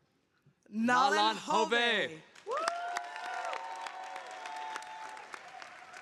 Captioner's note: audience applauding